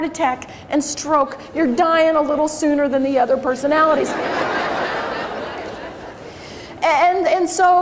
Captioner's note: crowd laughs